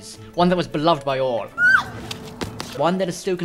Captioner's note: shrieking